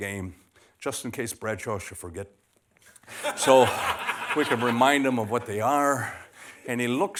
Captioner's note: laughter